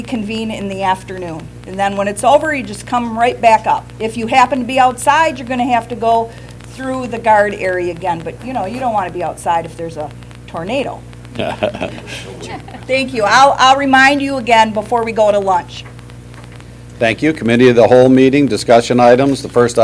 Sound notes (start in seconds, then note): 11.3 laughter